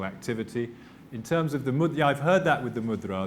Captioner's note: non-english